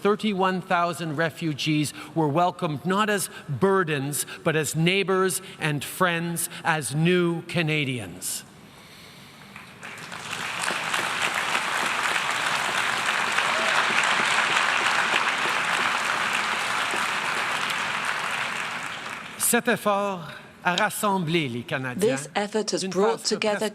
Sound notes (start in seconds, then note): 9.5 applause; 18.3 speaking French